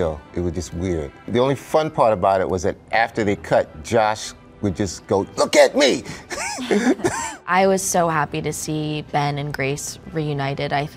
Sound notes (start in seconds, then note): 6.3 everybody laughing